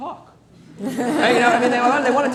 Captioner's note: laughter